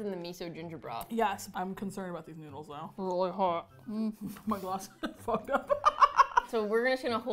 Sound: laughs

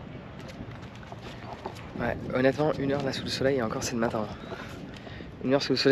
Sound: speaking in foreign language

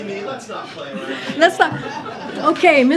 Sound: laughter

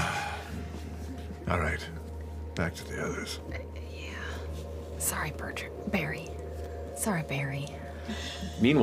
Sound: sighs

